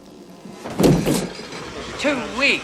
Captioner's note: thud